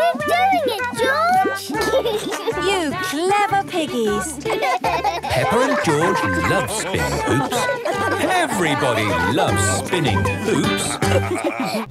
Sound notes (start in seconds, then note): 1.6 laughs; 4.9 both laugh